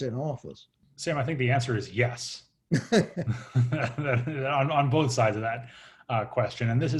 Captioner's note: laughing